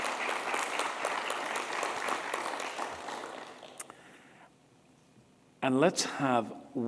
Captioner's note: applause